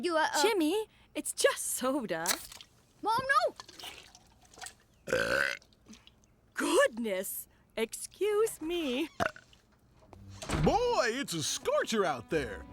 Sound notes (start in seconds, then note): 5.0 belches; 9.0 burps